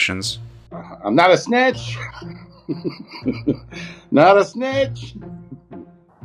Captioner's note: chuckling